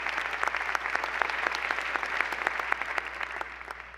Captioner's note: applause